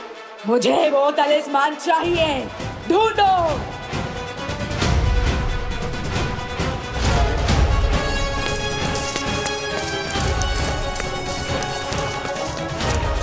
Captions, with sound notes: I want that talisman. Find him. [coins clinking]